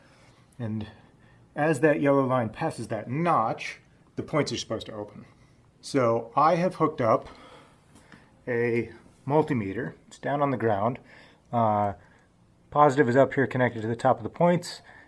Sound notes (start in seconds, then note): none